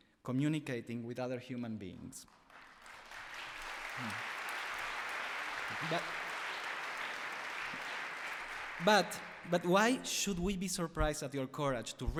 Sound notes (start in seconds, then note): 2.2 applause